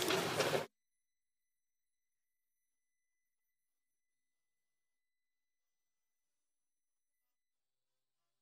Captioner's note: some Applause